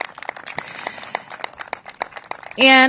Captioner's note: applause